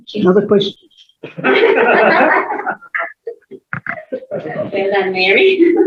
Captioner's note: laughter